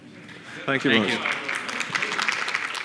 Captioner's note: applause